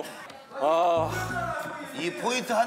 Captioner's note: Yu Kwang Soo can only sigh